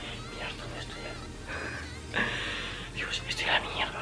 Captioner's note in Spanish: risa